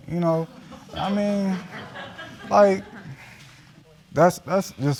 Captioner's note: audience chuckling